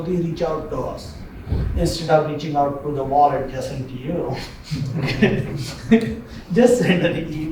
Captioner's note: laughter